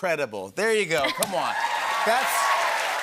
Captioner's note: cheers and applause